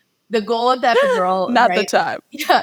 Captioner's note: laughing